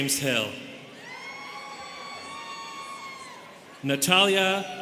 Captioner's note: students cheering